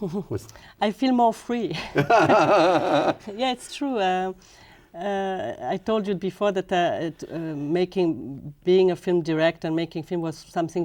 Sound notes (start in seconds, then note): 1.8 laughter